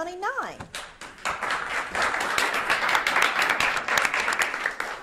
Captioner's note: audience claps